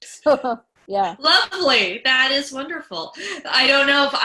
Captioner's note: laughs